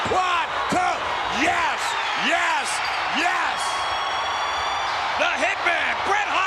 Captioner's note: spectators cheering